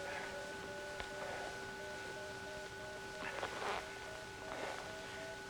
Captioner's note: Dr. Perry panting